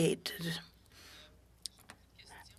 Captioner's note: speaking French